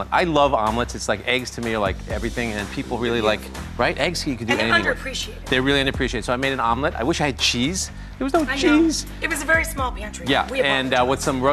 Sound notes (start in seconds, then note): 4.5 murmurs